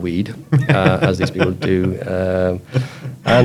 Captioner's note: laughs